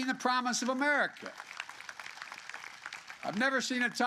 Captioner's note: applause